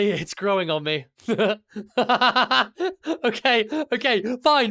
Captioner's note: two chuckles